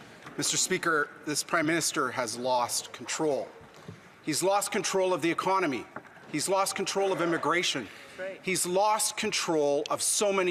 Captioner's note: some Applause